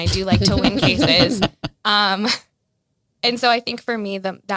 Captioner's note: all laugh